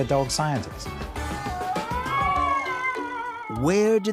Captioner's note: howling